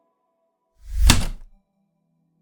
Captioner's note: heavy typewriter keystroke